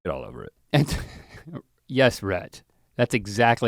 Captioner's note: chuckles